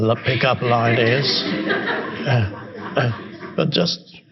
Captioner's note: audience laughing